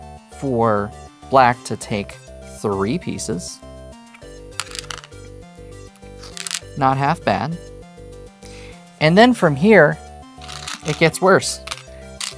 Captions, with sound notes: for black to take three pieces. (stones rattling) Not half bad. And then, from here, it gets worse. (stones rattling)